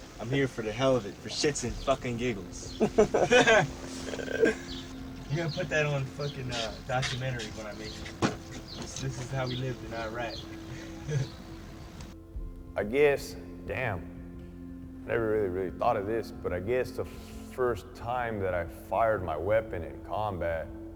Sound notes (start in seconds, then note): 3.1 soldiers laughing; 12.1 chuckles